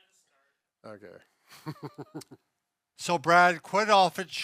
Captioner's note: laughing